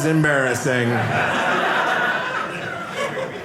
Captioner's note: audience laughing